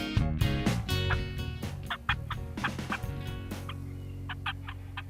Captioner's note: turkey calls